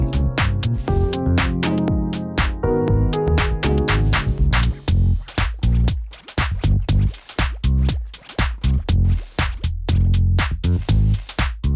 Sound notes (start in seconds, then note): 0.0 upeat music; 4.3 bubbling; 7.3 upeat music